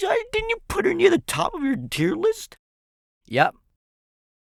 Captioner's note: mocking voice